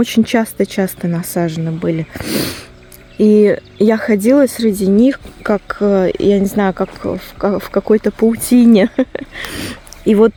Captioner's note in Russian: фыркает